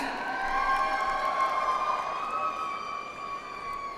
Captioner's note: audience applauds